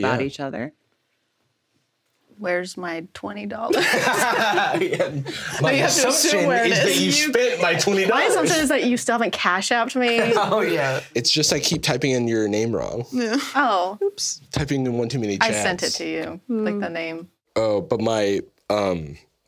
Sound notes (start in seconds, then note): 3.7 everyone laughs